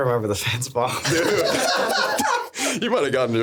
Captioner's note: laughing